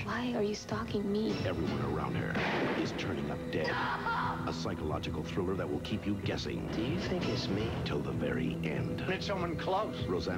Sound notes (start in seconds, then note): 2.3 gunshot; 3.7 sobbing while screaming; 6.9 soft-spoken, possibly drunk